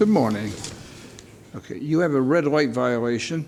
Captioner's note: none